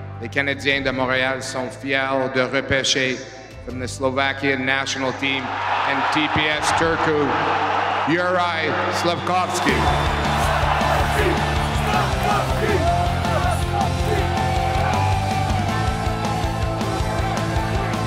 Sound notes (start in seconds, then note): 14.6 cheers